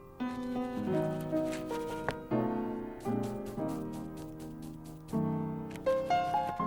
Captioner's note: mellow music; brush scratching